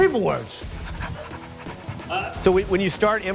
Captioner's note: Derek panting